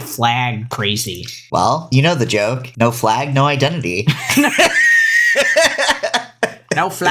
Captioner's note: laughs